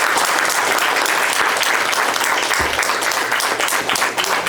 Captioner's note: applause